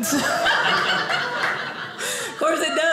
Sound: audience laughing

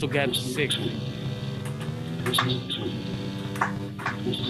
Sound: buzzer

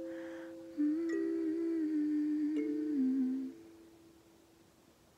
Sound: humming

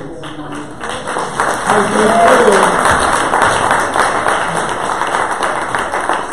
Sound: audience applause

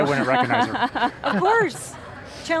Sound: all laughing

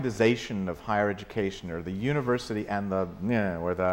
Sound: mouth sound

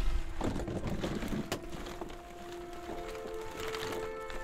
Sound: clams cracking

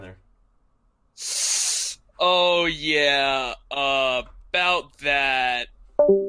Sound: inhale

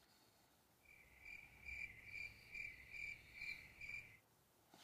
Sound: crickets chirping

